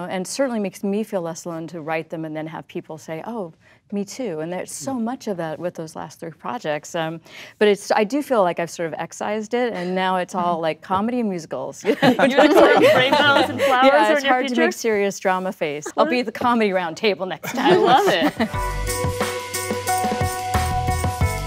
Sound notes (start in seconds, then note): 11.8 laughter; 17.4 upbeat music